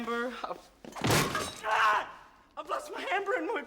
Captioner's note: yelling